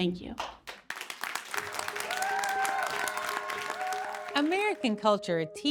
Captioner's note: audience applaud